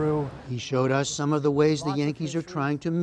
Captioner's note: voice-over